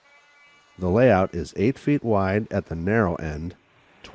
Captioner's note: voiceover